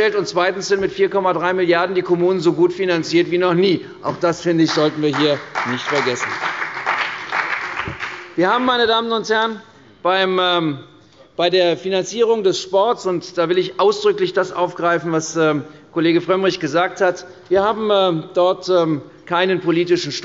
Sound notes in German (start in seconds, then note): 6.6 Beifall bei der CDU und dem BÜNDNIS 90/DIE GRÜNEN